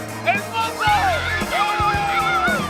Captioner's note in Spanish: Gritos